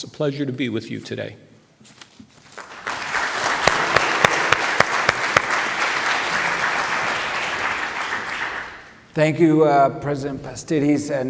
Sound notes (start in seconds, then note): 2.4 audience applauding